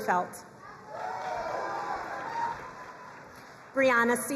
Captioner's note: crowd cheering and applauding